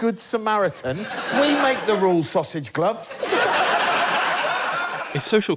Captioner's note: laughter